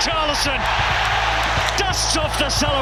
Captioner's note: crowd erupts